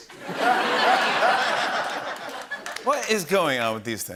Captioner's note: laughter